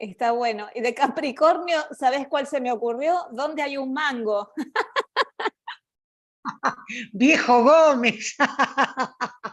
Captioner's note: laughs; laughter